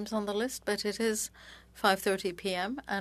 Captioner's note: speaking French